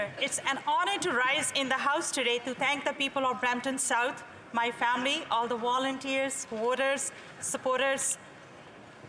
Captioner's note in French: voix de l'interprète